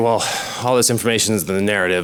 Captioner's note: sighs